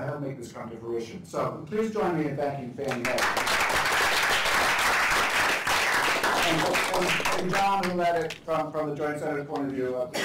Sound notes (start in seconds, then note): 2.8 applause